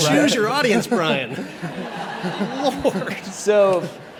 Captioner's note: audience laughs